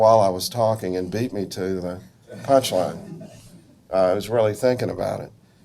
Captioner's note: audience laughs